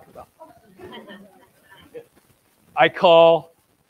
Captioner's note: audience laughs